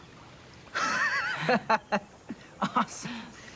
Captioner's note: Tom laughing